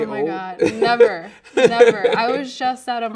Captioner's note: laughing